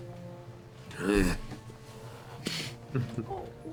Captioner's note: groans